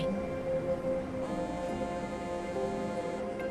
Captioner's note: phone buzzes